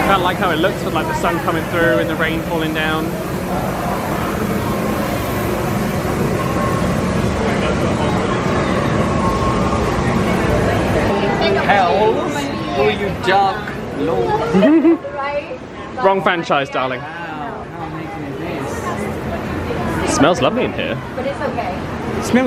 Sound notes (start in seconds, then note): 14.5 laughs